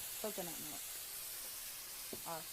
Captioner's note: sizzles